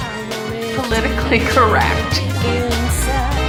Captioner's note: chuckles